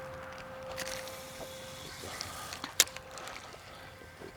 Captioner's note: suspenseful music continues; line whirring